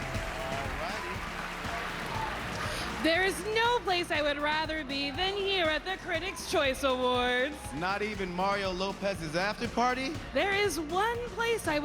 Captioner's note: cheers and applause